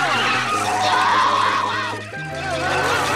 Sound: screaming

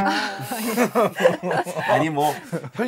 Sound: heeheehee…

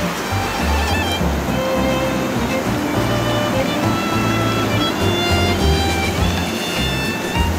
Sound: laughs

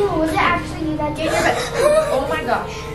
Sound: girls gasp

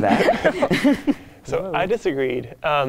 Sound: participants laughing

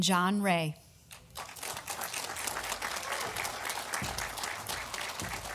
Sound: audience applauding

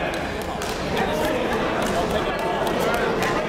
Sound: chatter

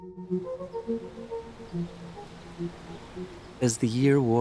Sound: trees rustling

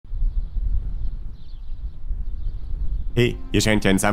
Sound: wind noise

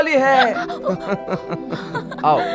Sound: laughs

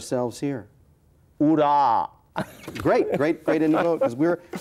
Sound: laughs

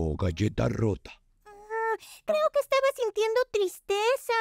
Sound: speaking Spanish

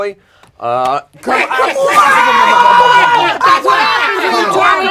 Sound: panel shouting

